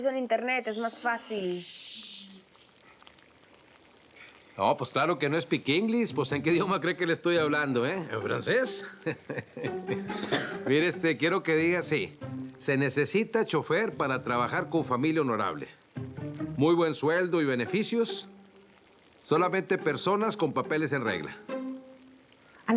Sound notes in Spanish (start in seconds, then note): 10.6 Ríe